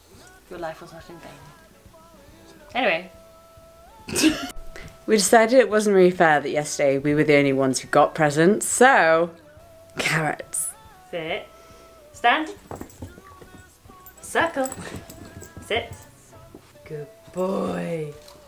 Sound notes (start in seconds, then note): 3.5 titters